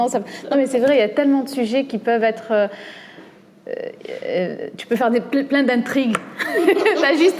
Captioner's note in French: rires